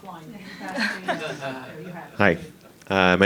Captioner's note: laughing